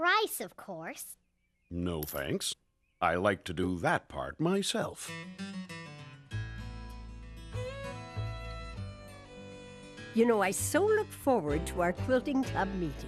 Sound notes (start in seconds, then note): none